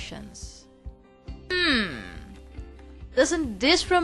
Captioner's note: thonking